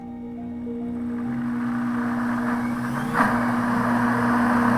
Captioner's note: machine whirring